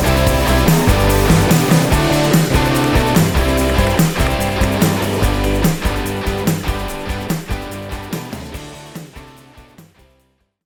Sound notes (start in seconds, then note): 1.0 bright upbeat music continues; 2.8 keys clacking; 7.6 keys clacking